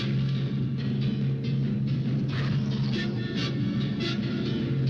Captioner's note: werewolf growing